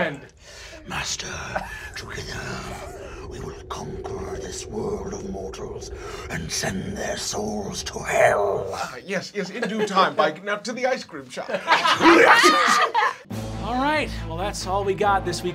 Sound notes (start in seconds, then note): 11.6 laughing